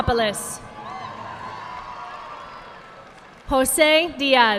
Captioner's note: audience clapping